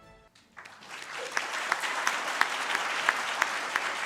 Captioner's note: dramatic music; audience claps